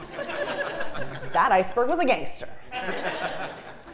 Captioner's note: laugh